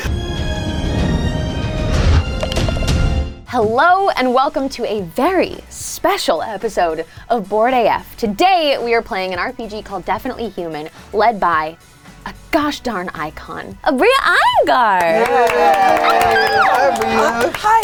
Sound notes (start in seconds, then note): 14.6 group clapping ang cheering